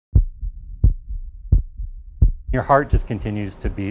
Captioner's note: heartbeat